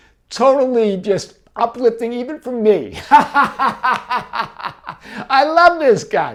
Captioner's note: laughs